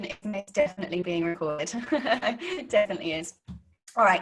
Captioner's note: laughing